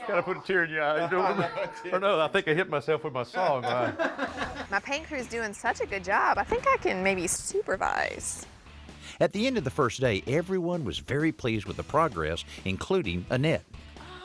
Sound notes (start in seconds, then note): 3.4 laughing